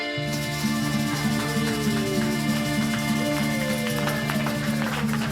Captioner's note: crowd applauding